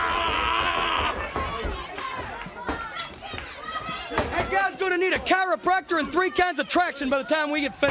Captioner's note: crowd cheering